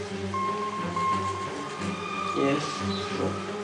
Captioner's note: beeps